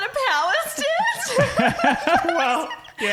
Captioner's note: laughing